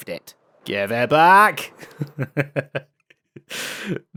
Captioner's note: laughs